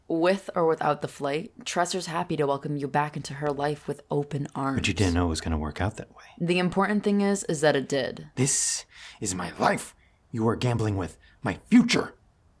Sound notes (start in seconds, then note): none